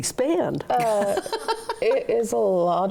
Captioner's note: laughs